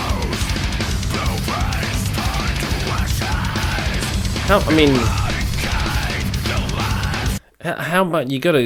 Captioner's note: screaming